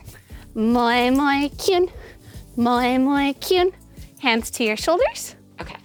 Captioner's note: speaking foreign language